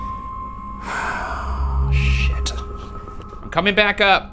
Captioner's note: sighing